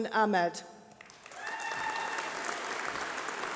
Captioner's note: applause